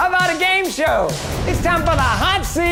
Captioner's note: loud swooping; loud slamming